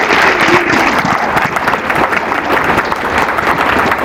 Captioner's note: applause